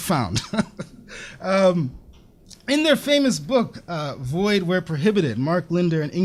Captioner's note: laughs